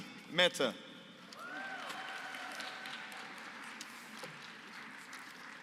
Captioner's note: applause